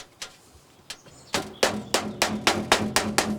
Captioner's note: birds chirping